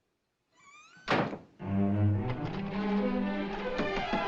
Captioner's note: doorknob Rattling